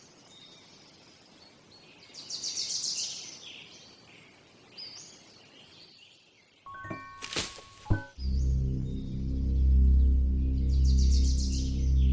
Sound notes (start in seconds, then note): 2.6 birds chirping; 6.7 mysterious music; 7.2 twig snaps; 7.6 tense music